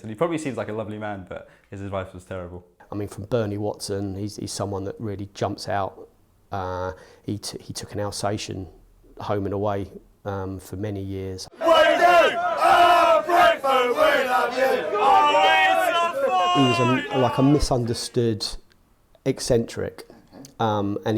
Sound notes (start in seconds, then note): 14.7 fans cheering